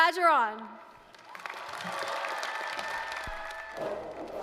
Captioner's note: applause, cheering